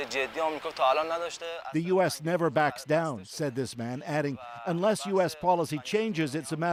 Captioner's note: speaking alternate language